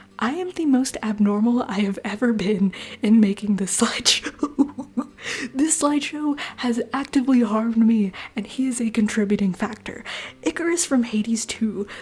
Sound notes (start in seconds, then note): 4.2 laughter